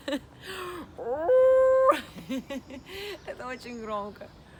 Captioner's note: wolf howling